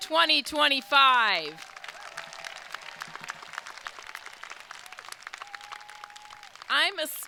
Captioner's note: crowd cheering; crowd applauding